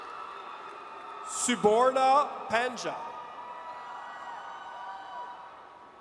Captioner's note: audience cheers